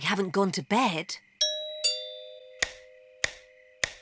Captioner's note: doorbell chimes